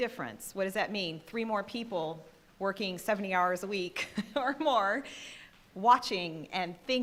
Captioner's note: laughing